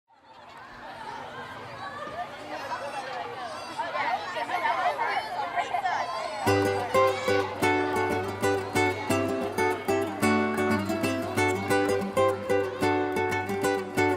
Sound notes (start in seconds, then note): 0.0 children playing; 6.4 light acoustic music